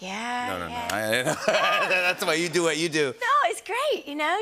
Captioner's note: laughter